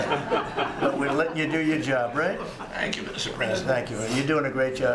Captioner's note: laughter